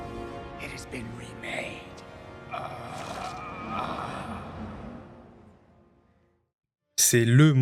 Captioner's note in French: grognement